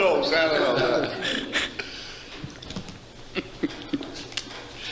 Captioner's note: laughing